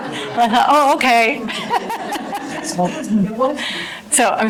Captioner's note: audience laughter